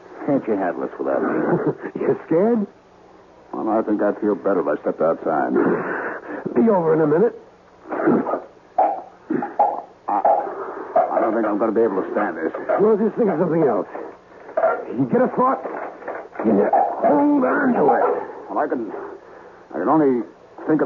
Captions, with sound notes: Can't you have this for that reason? You scared? Oh, no, I think I feel better by stepping outside. Be over in a minute. [coughing] I don't think I'm going to be able to stand this. Well, just think of something else. Get a thought. Get a hold on to it. Well, I can only think